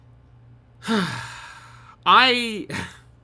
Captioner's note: sigh